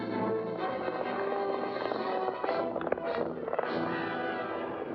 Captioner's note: dramatic music; hooves pounding; dramatic music